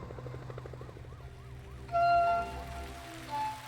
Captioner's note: siren wailing; soft orchestral music continues